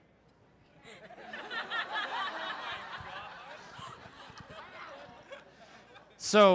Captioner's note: crowd Laughter